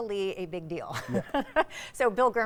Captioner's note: chuckling